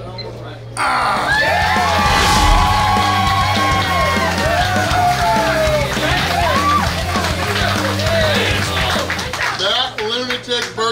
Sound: cheering & Clapping

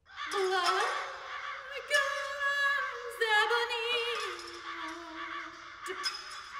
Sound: crows, breaking glass

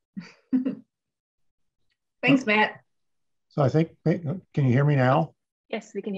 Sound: chuckles

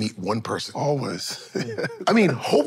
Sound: laughs

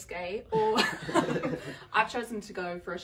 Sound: everyone laughing

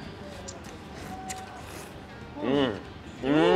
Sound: slurps

